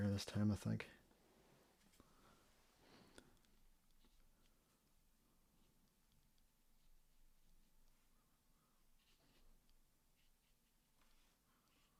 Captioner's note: silence